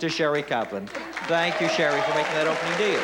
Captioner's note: applause